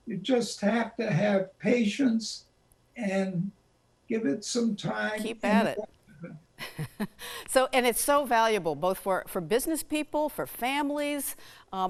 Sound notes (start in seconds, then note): 6.6 chuckles